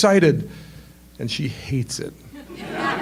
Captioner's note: laughter